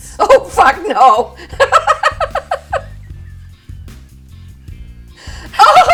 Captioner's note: laughter; BIG laughter